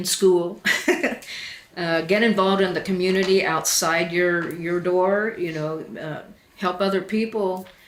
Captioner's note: laughs